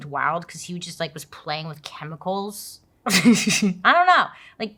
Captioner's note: laughs